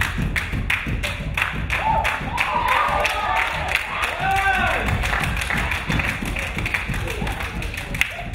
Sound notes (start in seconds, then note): 1.4 crowd cheering; 2.0 crowd applauding